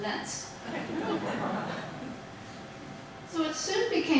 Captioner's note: audience laughing